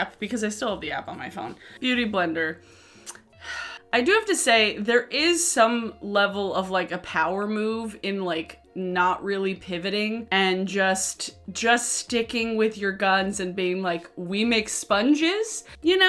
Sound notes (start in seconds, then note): 3.2 sighing